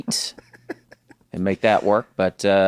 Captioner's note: laughs